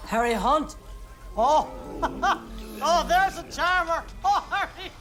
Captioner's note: laughs